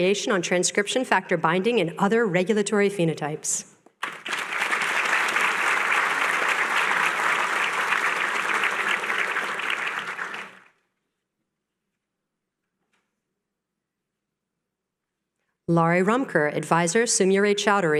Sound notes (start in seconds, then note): 5.5 applause